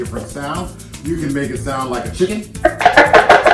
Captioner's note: chicken sound